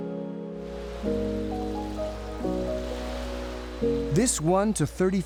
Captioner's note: waves lapping